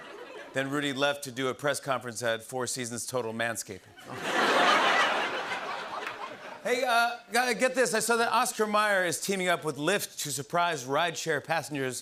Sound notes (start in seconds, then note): 4.0 laughter